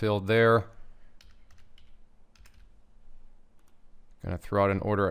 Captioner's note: keyboard clacking